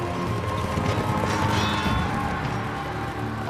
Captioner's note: men shouting, swords clashing